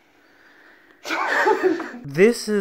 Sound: laughter

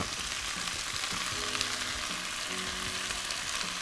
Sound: oil sizzles

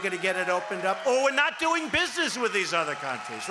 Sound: cheering and applause

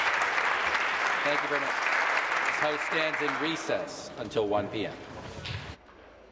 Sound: applause

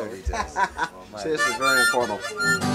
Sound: laughs

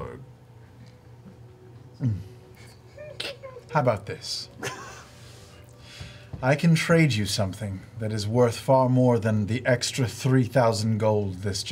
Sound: gulps

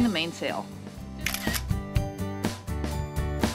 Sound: camera click

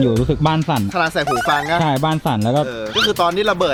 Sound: pat

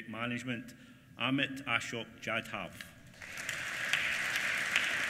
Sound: applause

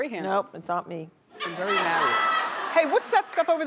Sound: audience laughing

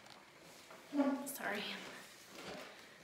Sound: chair squeaks

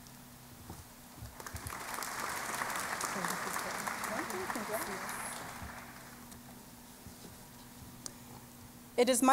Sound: applause

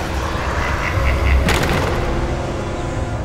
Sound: evil whispering and laughter; door slams open

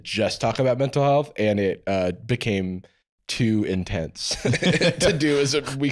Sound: laughs

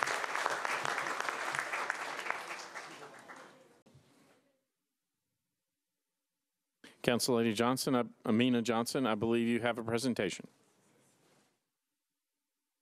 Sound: applause

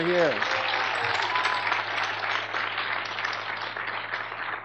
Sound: audience clapping

